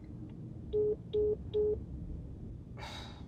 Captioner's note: phone beeps